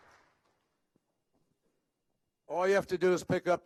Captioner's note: applause